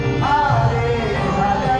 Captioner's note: non-english speech